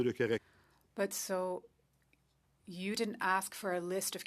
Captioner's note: speaking French